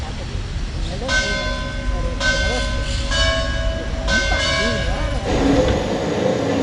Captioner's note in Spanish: sonido de campanas